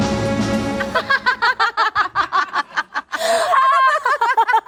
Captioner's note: laughing